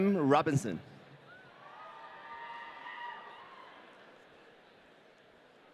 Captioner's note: audience cheering